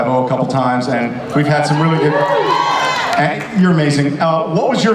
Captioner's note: audience cheers